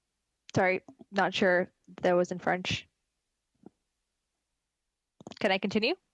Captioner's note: speaking French